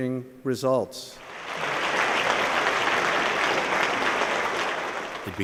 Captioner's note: applause